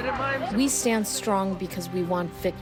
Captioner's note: through translator